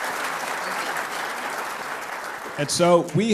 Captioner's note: applause